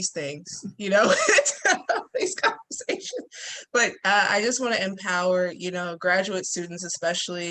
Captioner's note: laughing